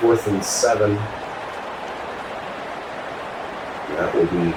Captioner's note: crowd Noises